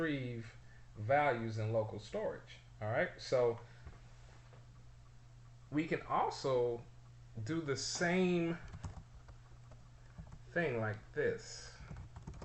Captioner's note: typing sounds